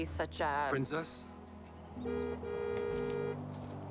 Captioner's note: horn honks